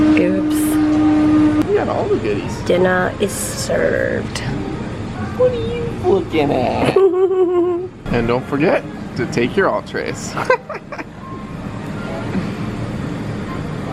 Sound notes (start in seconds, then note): 6.8 giggling; 10.3 chuckling